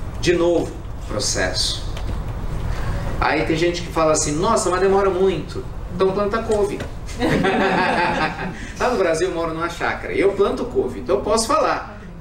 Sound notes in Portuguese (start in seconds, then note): 7.1 Risos